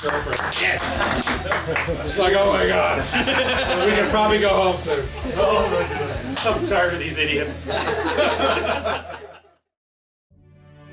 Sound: laughter

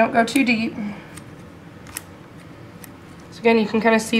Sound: scissor-clipping sounds

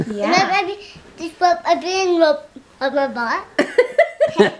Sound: baby talk

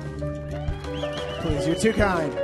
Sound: audience cheers

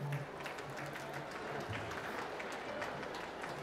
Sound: applause

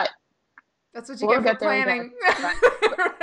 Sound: laughing

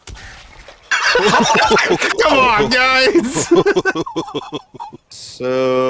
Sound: group laughter

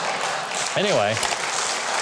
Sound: audience clapping

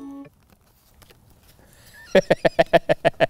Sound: laughs

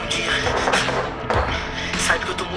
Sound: gunshot noises

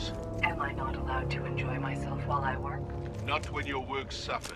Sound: radio

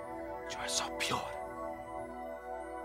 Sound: whispering

